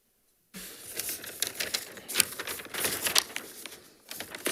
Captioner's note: paper rasping